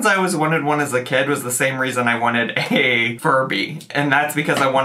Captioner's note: chuckles